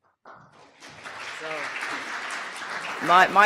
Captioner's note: audience applause